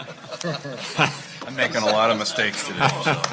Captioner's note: board laughing